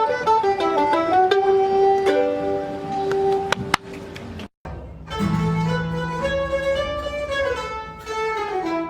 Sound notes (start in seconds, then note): 3.3 people clap; 5.0 lively bluegrass music